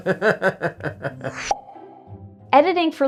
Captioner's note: laughing; pop noise